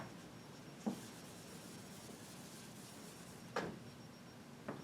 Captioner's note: board eraser hissing